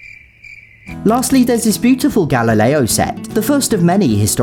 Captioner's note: crickets